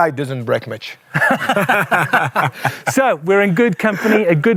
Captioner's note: laughing